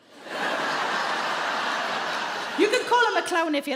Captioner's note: crowd laughs